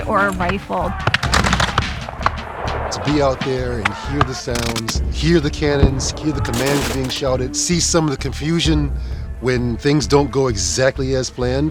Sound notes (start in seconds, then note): 1.0 gunshots